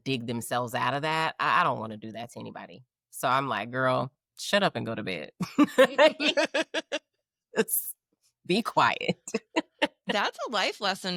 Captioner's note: laughing